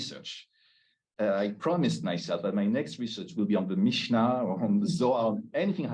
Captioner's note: Hebrew